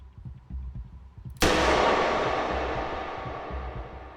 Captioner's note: gunshot echoes